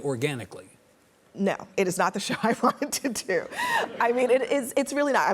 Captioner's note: audience laughs; laughs